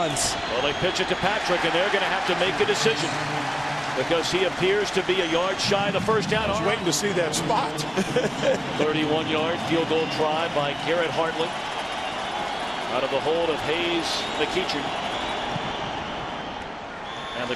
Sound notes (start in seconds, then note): 7.8 laugh; 14.6 crowd cheering